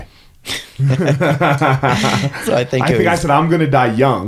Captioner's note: laughing